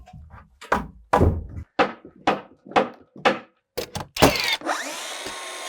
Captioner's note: hammer knocking; power tool whizzing